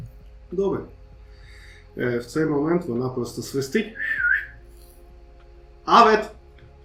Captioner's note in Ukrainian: свист